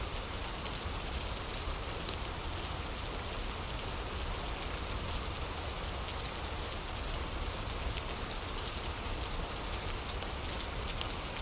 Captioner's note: fire crackling